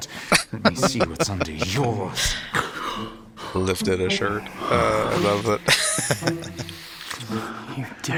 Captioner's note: laughing